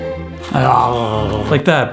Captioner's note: murmuring sounds